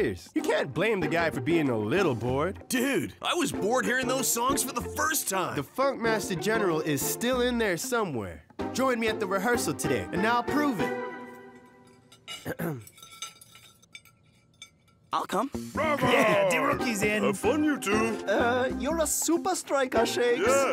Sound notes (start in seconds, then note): 12.4 clearing throat; 13.2 utensils clinking